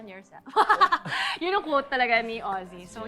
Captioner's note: laughs